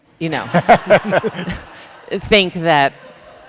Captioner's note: people laughing